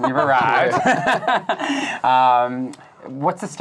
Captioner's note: laughing